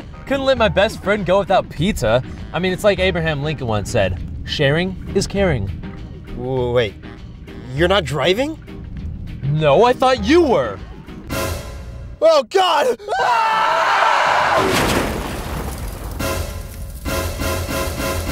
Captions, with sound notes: couldn't let my best friend go without pizza! I mean it's like Abraham Lincoln once said: Sharing is caring! wa- wa- wait... You're not driving? No, I thought you were! Oh god! (Screaming) (Crash)